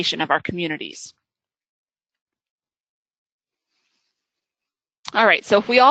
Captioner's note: silence